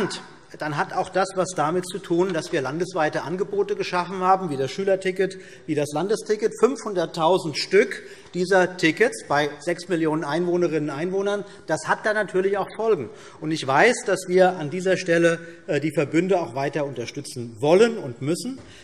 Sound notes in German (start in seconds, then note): none